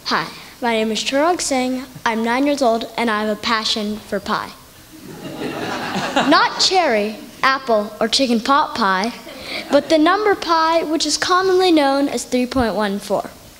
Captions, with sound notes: Hi my name is Chirag Singh, I am 9 years old and I have a passion for Pi. (Laughter) Not cherry, apple or chicken pot pie but the number Pi, which is commonly known as 3.14.